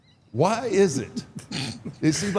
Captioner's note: Paul laughing